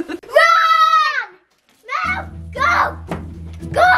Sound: evil laugh; screams

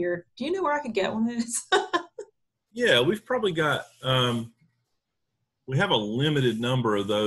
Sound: laughing

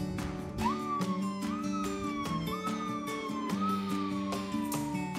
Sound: police sirens beeping

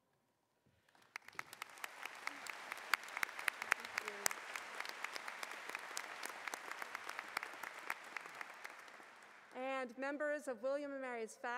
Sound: applause

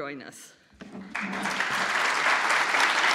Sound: applause

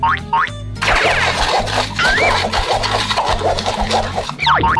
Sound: drops boinking; sugar scratchily stirring; drops boinking

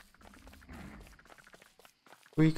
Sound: distant hound huffing

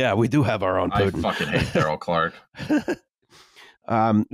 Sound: laughs

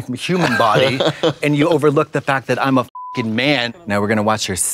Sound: beep

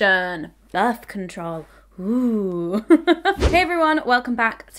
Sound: laughs

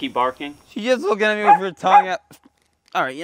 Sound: barking

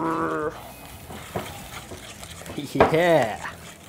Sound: growling; whisking

